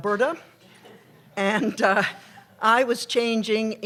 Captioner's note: laughter